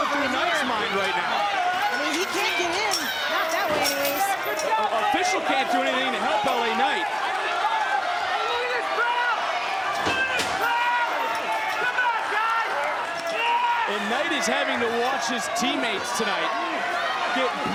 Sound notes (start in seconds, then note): 7.8 crowd cheering